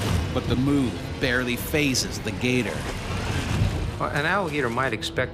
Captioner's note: voiceover